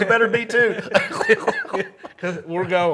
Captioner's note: both laughing